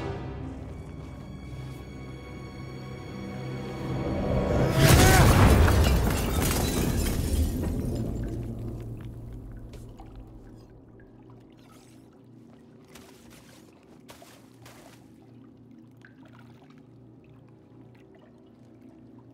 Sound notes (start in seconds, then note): 4.7 yells in anger; 4.8 glass shattering